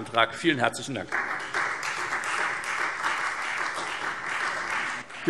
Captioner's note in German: Beifall Freie Demokraten